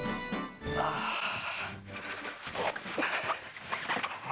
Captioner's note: grunts